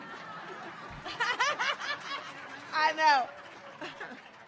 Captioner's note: audience laughing